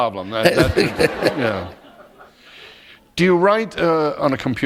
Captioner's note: laughter